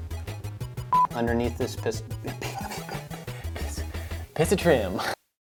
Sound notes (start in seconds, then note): 0.0 upbeat music; 2.2 laughing